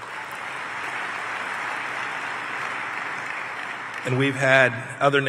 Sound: applause

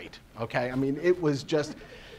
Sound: laughing

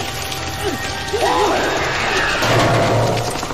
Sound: centipede screams; metal banging

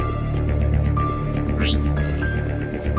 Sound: screen swipe sound

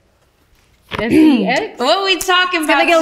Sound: clears throat

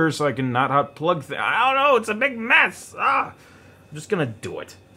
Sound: yells

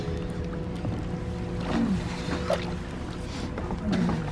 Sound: shivering

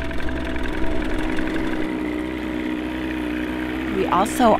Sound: churning boat motor

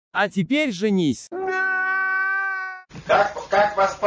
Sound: sounds of crying.AGAIN

